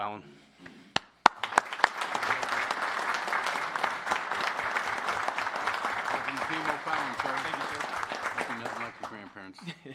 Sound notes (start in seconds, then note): 2.6 applpause